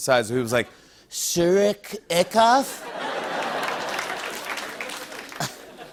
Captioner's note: laughter and applause